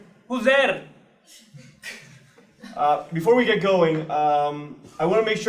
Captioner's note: laugh